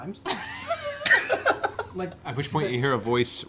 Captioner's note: laughter